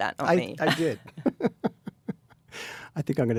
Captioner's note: David laughs